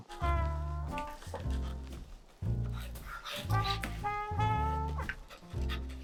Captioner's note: lively music; pen scratching